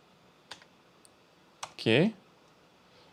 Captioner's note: keyboard clicking